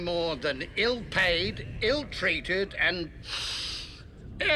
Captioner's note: inhales sharply